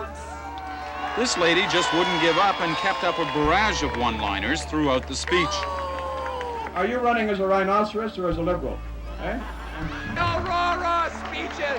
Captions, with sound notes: Know you're lost without your notes! [cheering] Reporter:This lady just wouldn't give up and kept up a barrage of one-liners throughout the speech. Boo! Are you running as a Rhinoceros or as a Liberal? Eh?